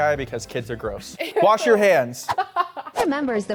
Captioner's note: laughs